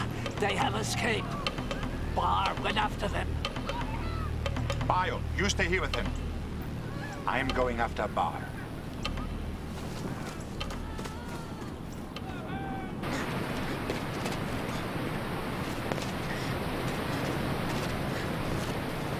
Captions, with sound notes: - Ah, they have escaped. Barr went after them. - Bayu, you stay here with him. I am going after Barr. (running footsteps) (water running) (footsteps)